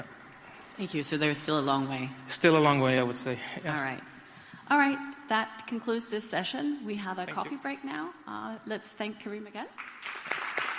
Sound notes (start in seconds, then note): 9.7 applause